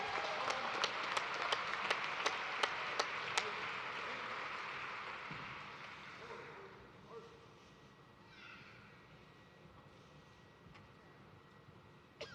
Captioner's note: cheers and applause